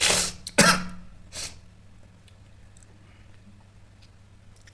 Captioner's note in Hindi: नाक से की जाने वाली आवाज़; गला साफ़ करने की आवाज़